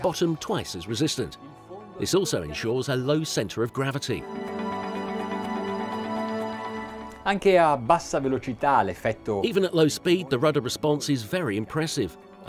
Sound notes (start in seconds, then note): 7.3 speaking in Italian